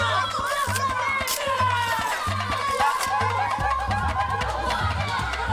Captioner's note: kids yelling